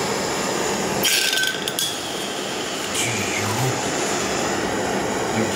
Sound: sound of rapid cooling of hot glass in water

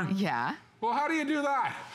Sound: laughter

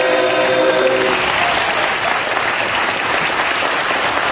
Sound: applause

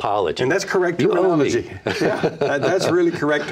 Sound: laughs

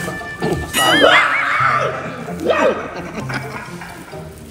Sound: screams

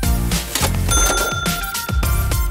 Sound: cha-chinging; upbeat music

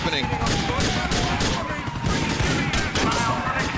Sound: sirens, bullets firing, explosions

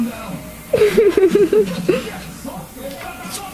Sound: laughs

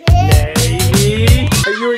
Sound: child laughing

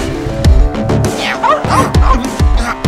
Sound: barking

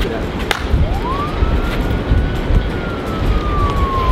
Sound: sirens

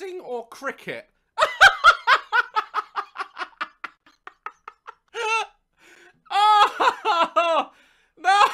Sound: laughter

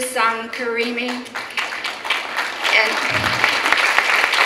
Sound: clapping

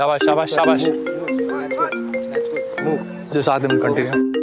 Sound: phone rings

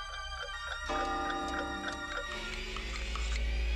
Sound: clocks chiming

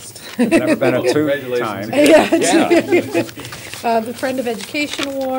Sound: laughter

